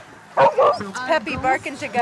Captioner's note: dog barking